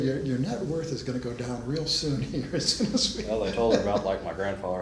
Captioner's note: laughs